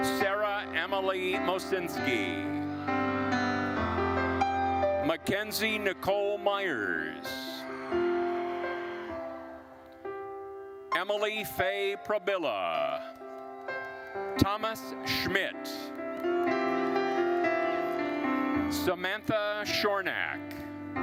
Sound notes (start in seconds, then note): 7.9 attendees cheering; 16.5 gentle music continues